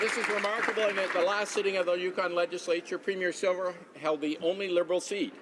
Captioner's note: some Applause